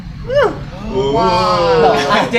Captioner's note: exclaimations